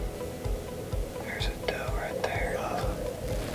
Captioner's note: whispering